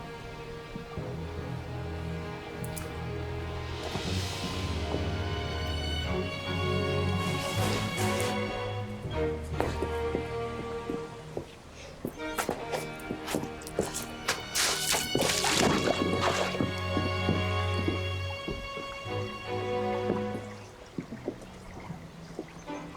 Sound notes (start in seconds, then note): 0.2 dramatic music continues; 15.0 water sloshing; 19.1 dramatic music continues